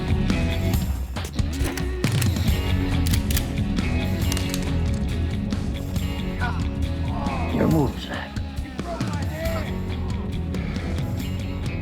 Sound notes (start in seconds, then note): 1.2 gun clicks; 6.3 grunting